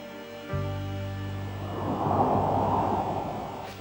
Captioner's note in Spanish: viento que sopla